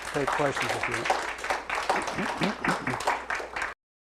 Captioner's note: applause